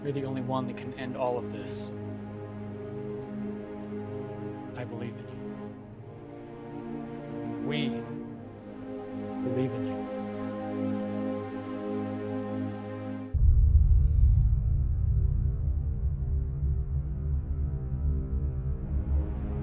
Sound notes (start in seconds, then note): 13.9 digital beeping; 13.9 menacing orchestral music